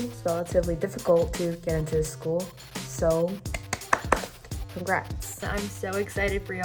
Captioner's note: clapping